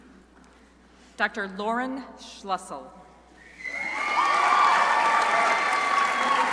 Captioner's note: crowd applauding